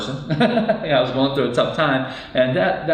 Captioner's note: laughs